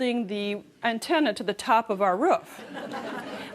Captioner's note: laughter